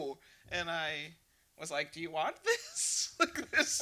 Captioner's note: laughs